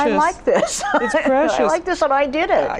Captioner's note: laughs